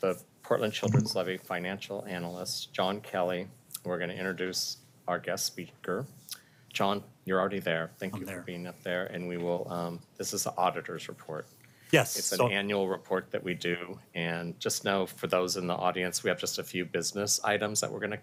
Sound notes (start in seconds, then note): 8.1 chorus of "Ayes"